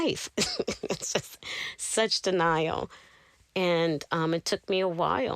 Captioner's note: laughter